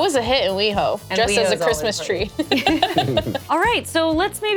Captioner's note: laughs